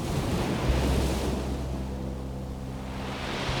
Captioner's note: wind blowing